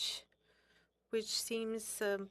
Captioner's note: speaking French